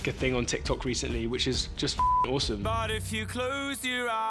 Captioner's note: beep